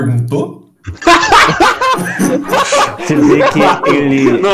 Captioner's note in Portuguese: risadas